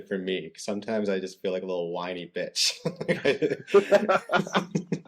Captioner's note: laughter